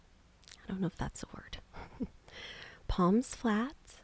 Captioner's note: softly chuckles